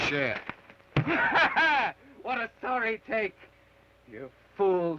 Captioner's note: laughs